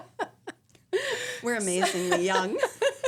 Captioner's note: laughing